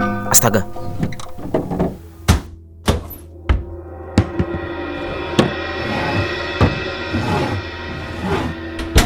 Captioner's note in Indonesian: suara benturan benda